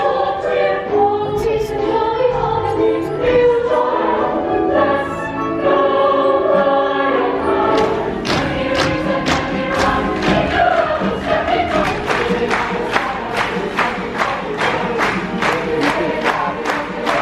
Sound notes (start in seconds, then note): 11.7 applause drowns out cast singing